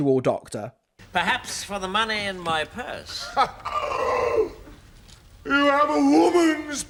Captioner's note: gasps in tom baker